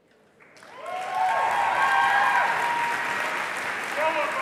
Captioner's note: applause